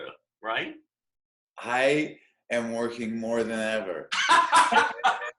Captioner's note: laughter